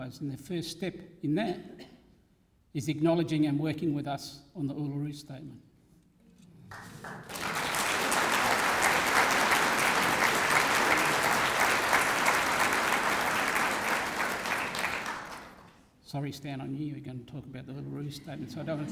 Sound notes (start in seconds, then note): 6.9 applause